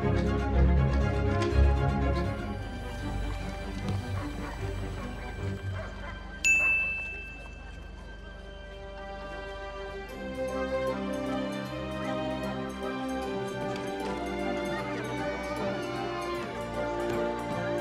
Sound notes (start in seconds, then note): 6.4 dinging; 9.2 light airy music